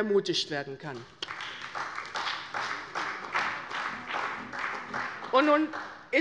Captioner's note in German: Beifall bei der CDU und dem BÜNDNIS 90/DIE GRÜNEN